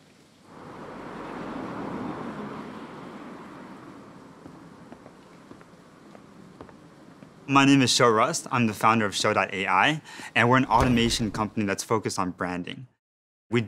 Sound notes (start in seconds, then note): 5.3 footsteps